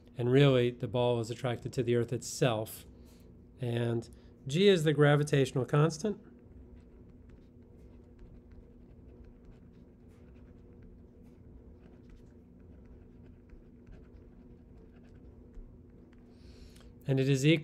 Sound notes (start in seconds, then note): 6.4 pen scratching